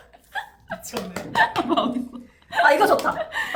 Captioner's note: laughs